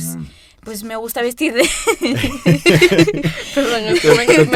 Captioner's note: starts laughing